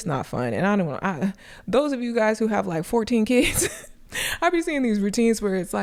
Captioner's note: chuckles